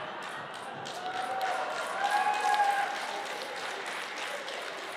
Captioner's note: applause